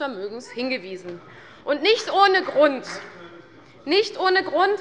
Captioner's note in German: Beifall bei der CDU